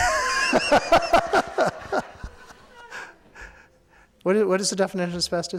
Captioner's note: laughing